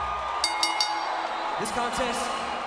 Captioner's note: bell rings